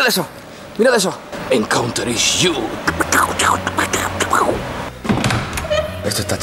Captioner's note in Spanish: scratching beatbox